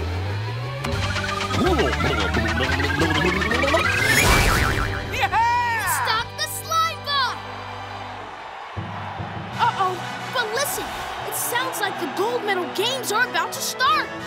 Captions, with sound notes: - Yeah heh! - It stopped the slime bot! [cheering] Uh-oh, but listen. It sounds like the Gold Medal Games are about to start.